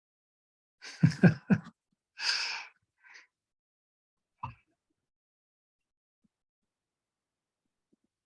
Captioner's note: chuckles